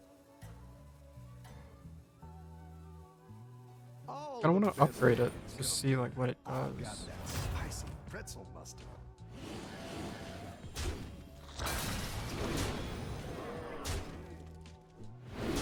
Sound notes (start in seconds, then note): 11.6 blaster firing